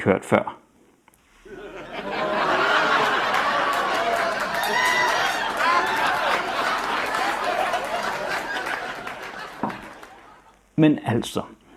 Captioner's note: audience laughing and applauding